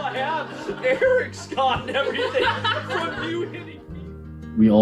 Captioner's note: laughing